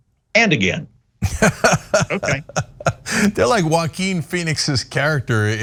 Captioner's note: laugh